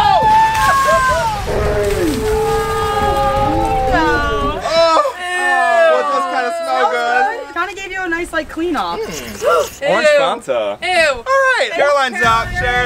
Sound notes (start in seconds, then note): 0.0 screams; 2.7 crowd cheers